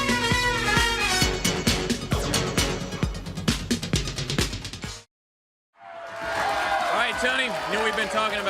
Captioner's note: crowd cheering